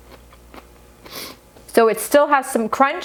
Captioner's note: blows nose